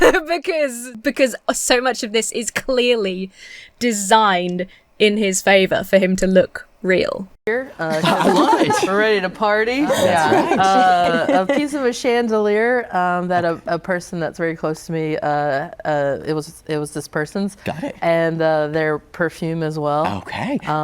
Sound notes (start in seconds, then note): 0.0 laughs; 7.8 guests laugh